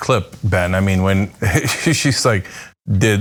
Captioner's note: laugh